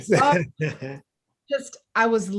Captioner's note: panelists laughing